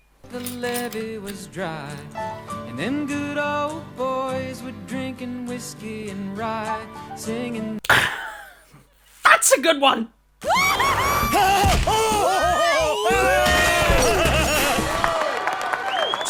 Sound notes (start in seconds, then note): 10.5 yelps; 10.5 continued screaming; 14.8 applause